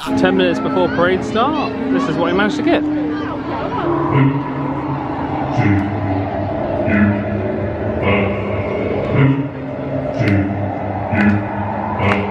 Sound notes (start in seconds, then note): 4.2 eerie wind howls; 12.0 guests clap on beat